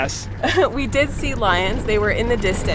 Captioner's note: laughing happily